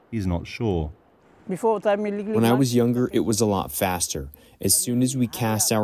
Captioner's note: through translator